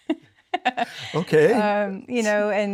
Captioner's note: laughs